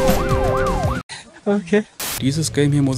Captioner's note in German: Rauschen